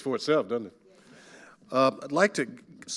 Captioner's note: quietly